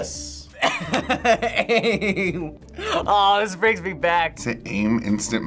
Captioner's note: laughs